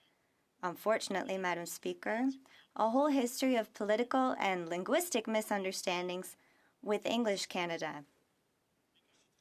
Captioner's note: speaking French